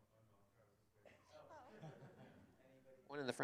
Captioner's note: laughter